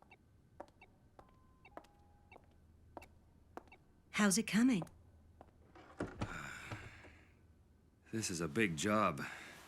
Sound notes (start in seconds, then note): 6.1 exhales sharply